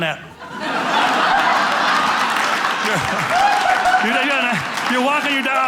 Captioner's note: audience laughing